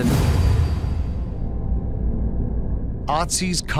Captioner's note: dramatic musical swoosh